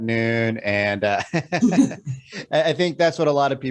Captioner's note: laughs